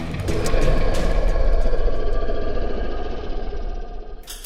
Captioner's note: beast growling